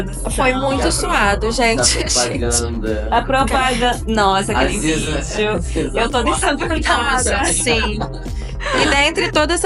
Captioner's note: laughs